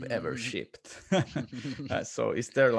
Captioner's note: laughing